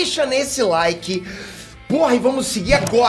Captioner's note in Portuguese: respira profundamente